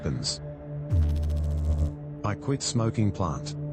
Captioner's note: electrical noise